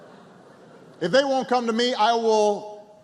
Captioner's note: laughter